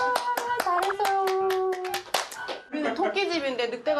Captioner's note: clap, clap